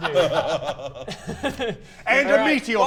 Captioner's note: evil laugh